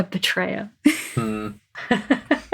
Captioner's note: laughs